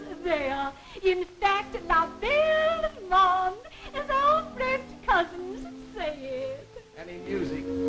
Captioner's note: french